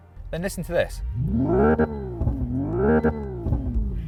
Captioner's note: simulated revving